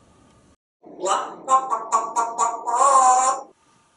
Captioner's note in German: chicken sounds